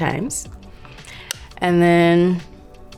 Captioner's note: brush tapping